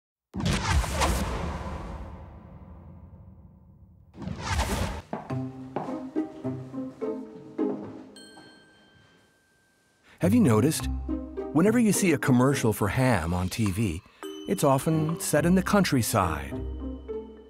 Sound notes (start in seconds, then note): 0.3 futuristic booming; 5.2 playful music